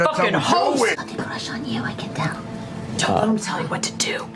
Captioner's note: whispering